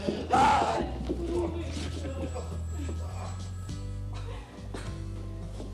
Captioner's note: telephone ringing